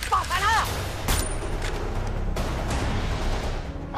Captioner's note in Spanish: Disparo